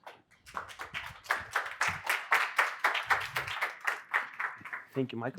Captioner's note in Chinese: 鼓掌